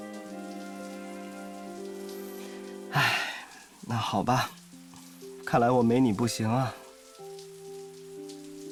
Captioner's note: sighs